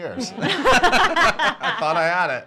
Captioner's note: laughing